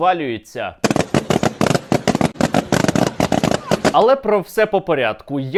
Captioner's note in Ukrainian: звук кульок, що лопаються